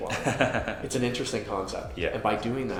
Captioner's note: host laughs